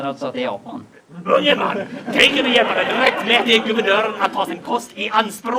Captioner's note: laughter